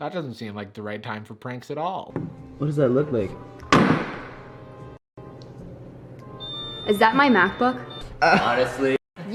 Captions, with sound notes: that doesn't seem like the right time for pranks at all. - What does that look like? (slamming sound) - Is that my MacBook? - Honestly.